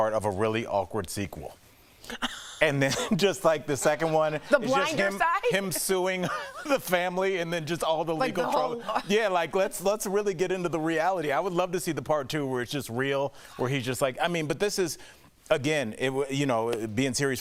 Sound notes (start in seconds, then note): 5.4 laughter